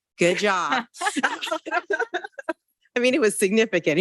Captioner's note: board members and attendees chuckle